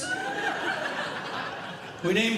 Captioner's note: audience Laughing